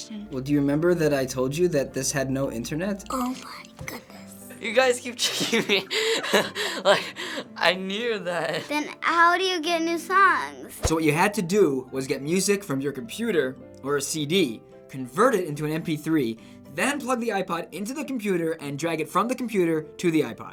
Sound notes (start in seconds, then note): 5.2 laughs